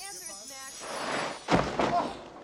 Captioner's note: clang; thud